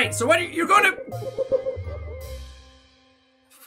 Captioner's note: ominous Giggles